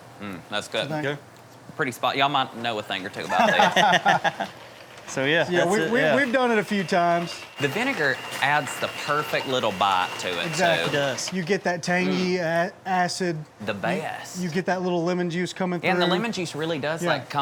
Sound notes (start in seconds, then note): 3.2 people laughing